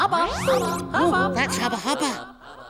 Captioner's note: echoing